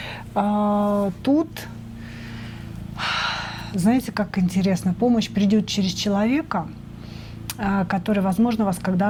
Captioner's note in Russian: тяжело вздыхает; вздыхает